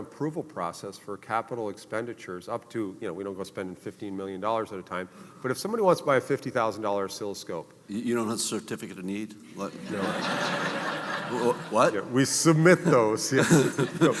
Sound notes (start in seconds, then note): 9.5 audience laughing